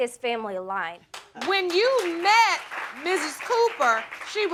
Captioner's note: audience applauding